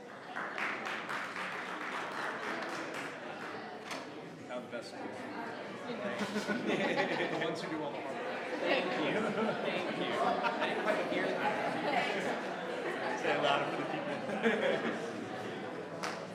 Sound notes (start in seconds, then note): 0.0 audience applauding; 4.4 members chattering; 6.0 members laughs; 7.6 members chattering; 10.2 members laughs; 11.1 members chattering; 14.2 members laughs